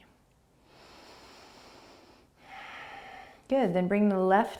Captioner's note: inhaling and exhaling